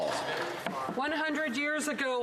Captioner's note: some Applause